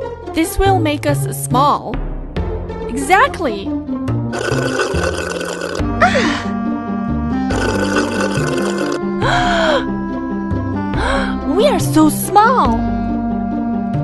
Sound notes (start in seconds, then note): 4.3 sip